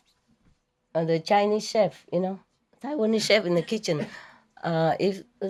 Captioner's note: Taiwanese